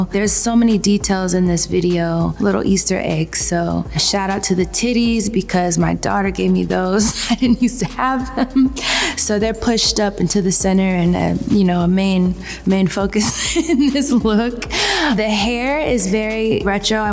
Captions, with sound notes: There's so many details in this video. Little Easter eggs, so, shout out to the titties because my daughter gave me those. I didn't use to have them. [chuckles] So they're pushed up into the center and you know, a main focus [chuckles] in this look. The hair is very retro.